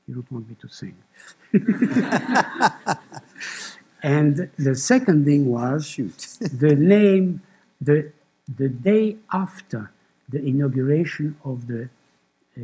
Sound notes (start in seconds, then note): 1.5 laughter